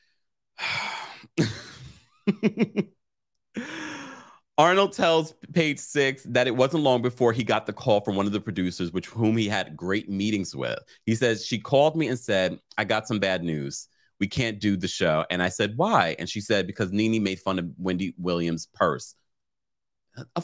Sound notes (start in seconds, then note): 2.2 laughs